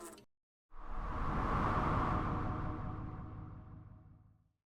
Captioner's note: logo whooshes